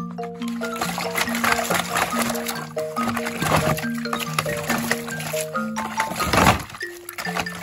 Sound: LUCKY started splashing water

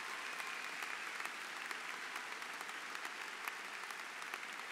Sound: applause

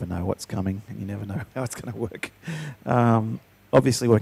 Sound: chuckling

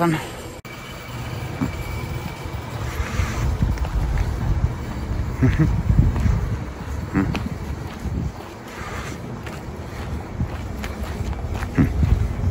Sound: indistinct silence and car engine runs

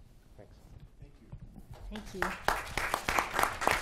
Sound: applause

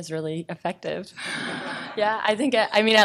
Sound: laughing

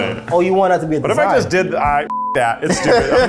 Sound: beep

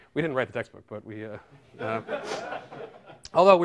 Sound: laughter

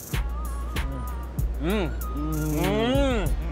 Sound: eating

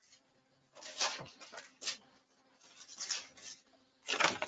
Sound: papers rustling

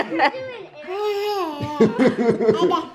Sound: baby babbling

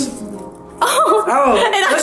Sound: laughs

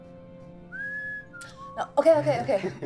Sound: whistling

